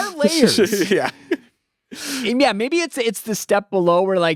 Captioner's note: laughs